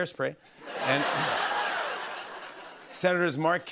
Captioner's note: laughter